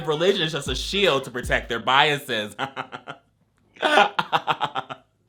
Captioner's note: laughs